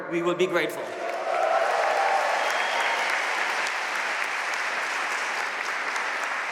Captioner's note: audience cheering and applauding